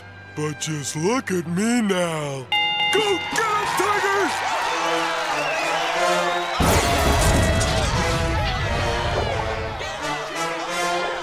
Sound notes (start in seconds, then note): 2.5 bell dings